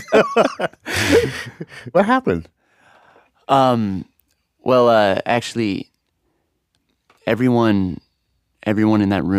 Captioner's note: laughs